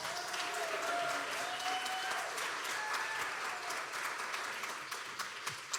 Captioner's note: audience cheering and applauding